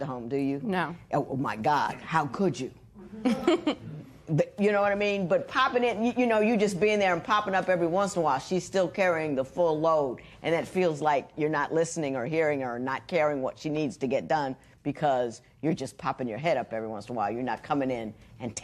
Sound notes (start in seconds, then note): 3.0 chuckles